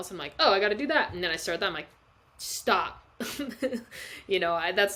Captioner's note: laughs